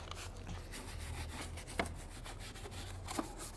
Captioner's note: scrubbing